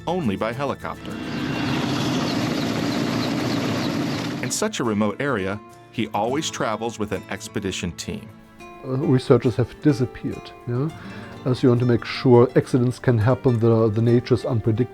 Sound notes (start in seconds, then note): 2.7 helicopter whooshing